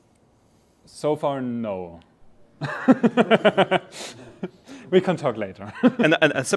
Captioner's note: laughing